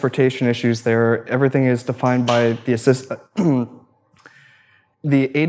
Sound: clears throat

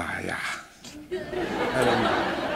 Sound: laughter

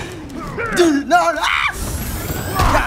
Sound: screams shrilly

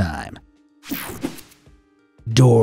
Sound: air whooshing

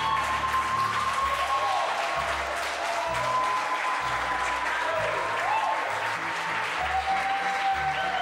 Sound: cheering

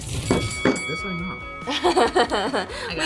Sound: bell dings; laughs

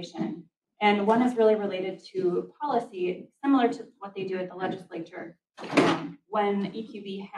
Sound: door opens

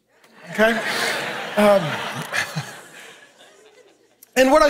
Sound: congregation laughing

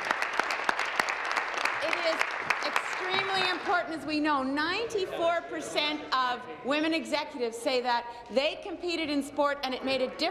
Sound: applause

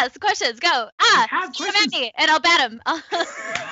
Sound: overlapping chattering; laughs

